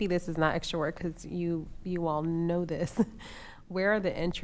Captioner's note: chuckles